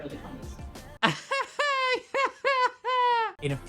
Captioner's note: laughing